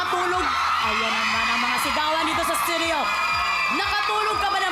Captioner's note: audience cheering